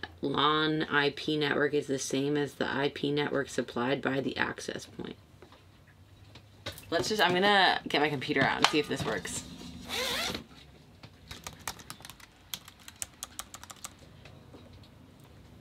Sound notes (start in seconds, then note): 9.7 zipper whirring; 12.4 soft clicking